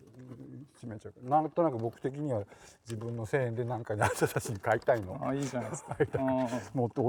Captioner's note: laugh